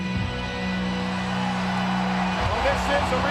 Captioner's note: crowd cheers